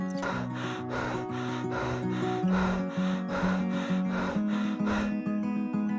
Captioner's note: panting